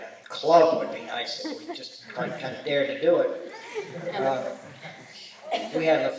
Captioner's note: laughter